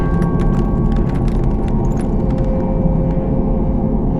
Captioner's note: glass crunching